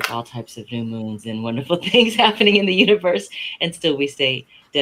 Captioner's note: laughs